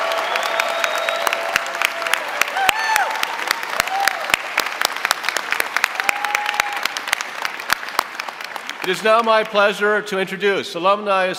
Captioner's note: applause